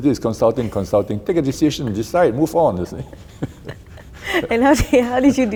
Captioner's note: both laugh